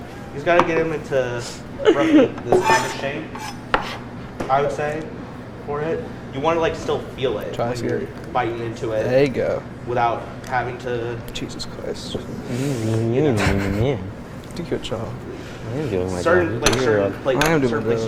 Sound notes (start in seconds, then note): 2.5 metal scraping; 12.8 mocks; 13.2 chuckles